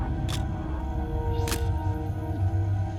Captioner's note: camera shutter click